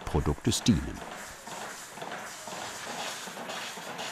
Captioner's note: even pumping sound